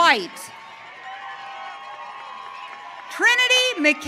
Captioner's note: audience cheering